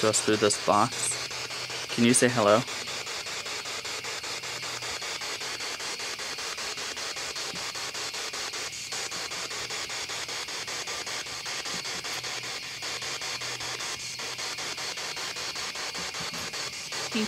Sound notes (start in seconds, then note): 4.1 spirit box static